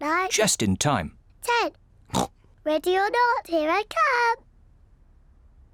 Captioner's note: snorts